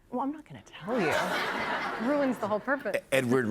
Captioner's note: laughter